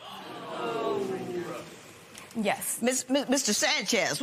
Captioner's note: spectators gasp, murmur